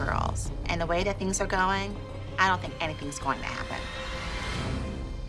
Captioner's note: none